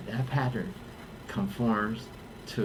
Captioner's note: none